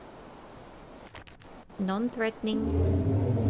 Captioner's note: triceratops 'social' roar sound